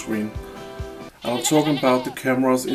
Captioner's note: goat bleats